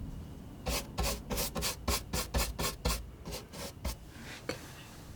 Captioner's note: scratching